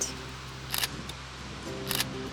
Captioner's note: camera shutter